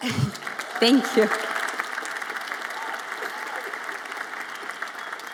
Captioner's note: audience applauds